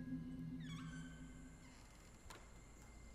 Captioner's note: Door creaks closes